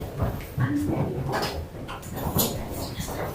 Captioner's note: indistinct chatter